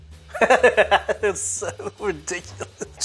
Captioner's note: laughs